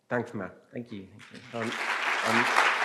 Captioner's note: applause